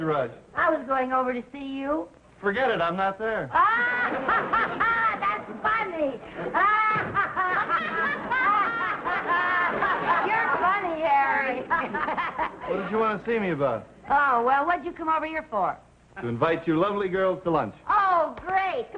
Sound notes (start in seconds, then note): 3.6 audience laughing; 5.0 laughing; 6.4 Lucy and Viv laughing